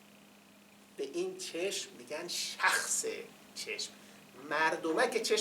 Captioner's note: in Farsi